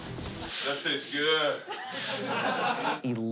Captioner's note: all laughing